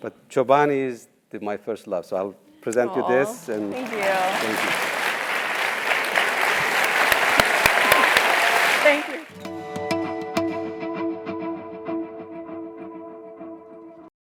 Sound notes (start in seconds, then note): 7.1 applause